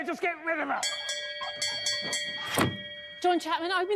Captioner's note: bell ringing